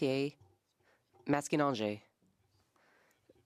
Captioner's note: speaking French